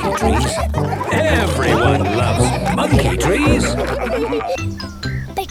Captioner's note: laughter